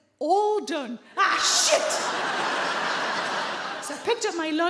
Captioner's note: audience laughing